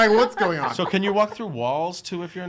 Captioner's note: laughs